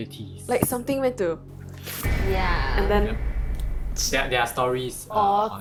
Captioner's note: tchhh